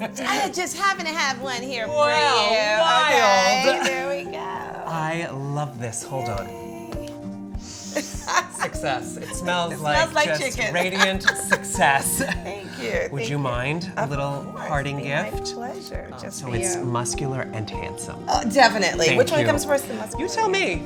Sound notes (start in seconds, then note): 0.0 both laughs; 7.8 laughs